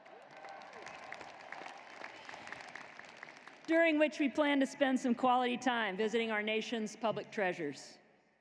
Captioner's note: cheers and applause